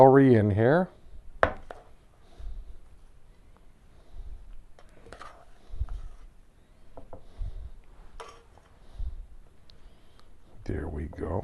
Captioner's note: silence